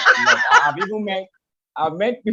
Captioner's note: laughs